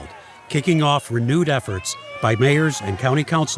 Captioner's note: people cheering